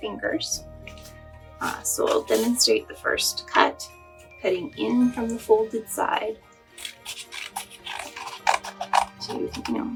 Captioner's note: sound of cutting paper